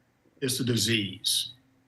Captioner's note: none